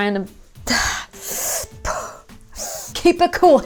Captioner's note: gasps